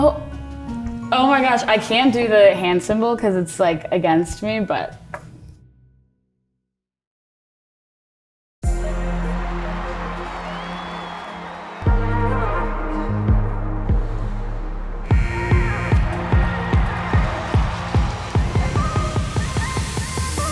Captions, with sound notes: - Oh. Oh my gosh. I can't do the hand symbol 'cause it's like against me, but. (upbeat music begins) (crowd cheering) (timer buzzing) (upbeat music continues)